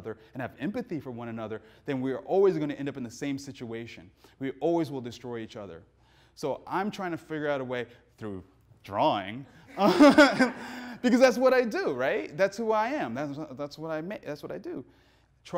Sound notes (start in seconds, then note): 9.6 laughs; 9.7 audience laughing